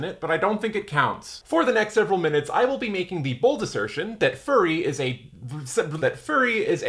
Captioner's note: stutters